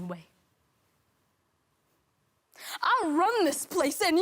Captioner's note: rustling